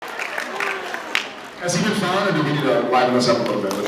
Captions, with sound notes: [audience applauds] Has he been fun, or do we need to liven this up a little bit